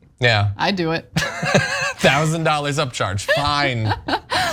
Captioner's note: laugh